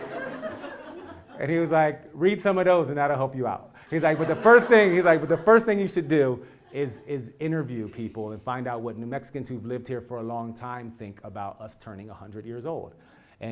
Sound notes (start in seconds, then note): 0.0 laugh; 3.9 laugh